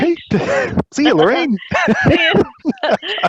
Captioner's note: laughs